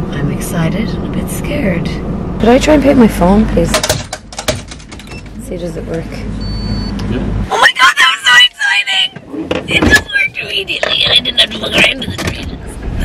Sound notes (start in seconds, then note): 4.2 attendant typing; 6.4 register beeps